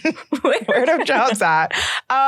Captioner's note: laughs